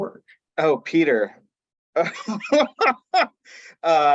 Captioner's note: laughs